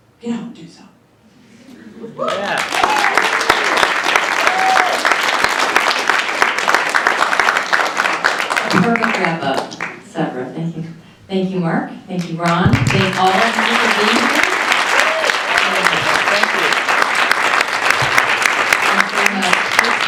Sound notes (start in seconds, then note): 2.1 cheering and applause; 15.9 more cheering and applause